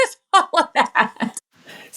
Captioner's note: laugh